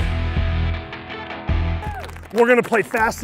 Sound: cheers

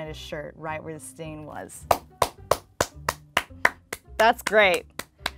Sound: claps

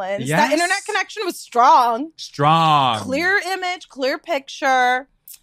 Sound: laughs

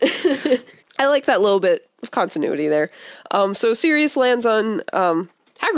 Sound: laughs

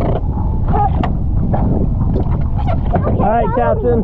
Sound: object clattering

